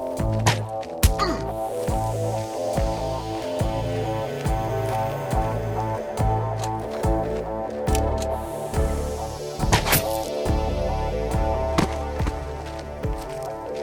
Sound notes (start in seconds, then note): 0.0 crossbow fires; 0.0 man groaning; 6.3 crossbow clicking; 9.3 crossbow fires; 11.3 body thuds